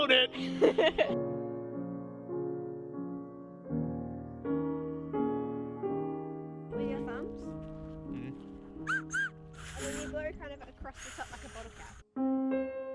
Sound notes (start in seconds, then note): 0.4 laughing; 8.8 whistling though grass